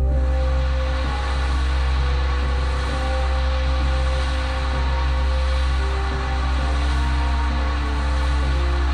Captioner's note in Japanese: 激しく降り続ける雨の音：ザァー･･･; 不穏なbgm